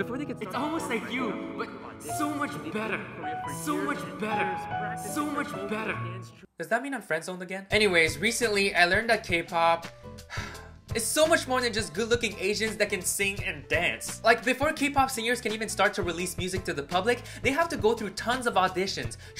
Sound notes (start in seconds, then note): 0.4 echo; 10.2 exhale